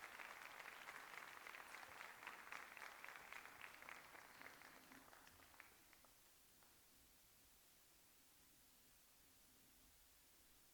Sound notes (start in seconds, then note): 0.0 applause